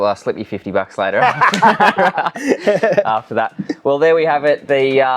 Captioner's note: both laughing loudly